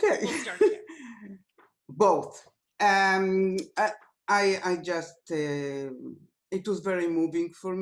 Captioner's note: laughter